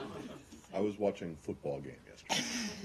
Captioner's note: laughter